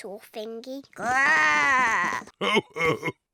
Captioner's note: oinks; growls; chuckles